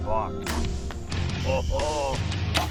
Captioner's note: arrow shoots